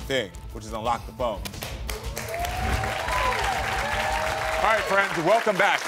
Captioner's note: audience applauding and cheering